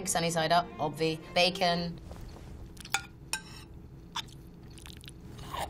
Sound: silverware clanking on plate

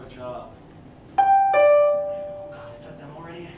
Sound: doorbell

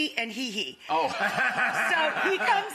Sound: audience laughs

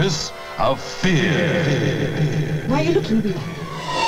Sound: voice echoing

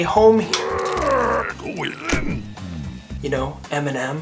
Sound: grumbling

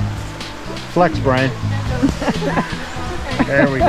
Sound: laughter

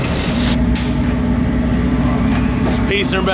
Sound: static noise

